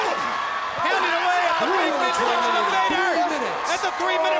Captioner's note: all yelling